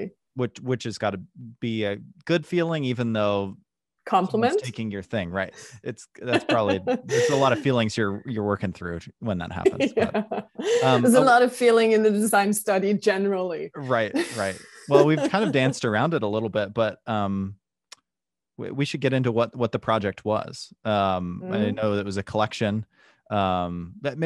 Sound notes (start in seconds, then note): 9.5 laughter